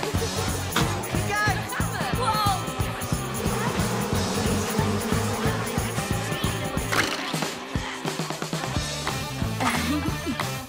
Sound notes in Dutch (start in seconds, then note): 9.5 nerveus lachje